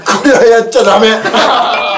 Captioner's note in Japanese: 笑い